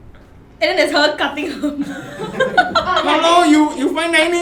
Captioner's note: laughs